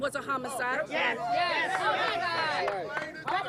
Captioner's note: cheering